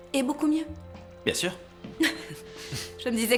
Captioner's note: laughs